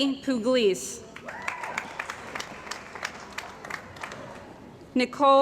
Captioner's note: cheering & Applause